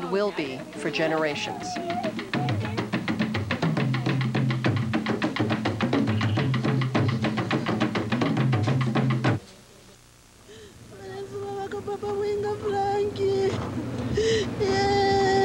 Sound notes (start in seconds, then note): 3.4 drumming; 10.6 non-english wailing